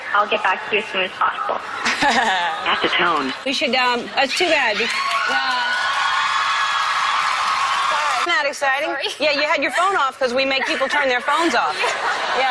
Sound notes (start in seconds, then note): 1.8 laughs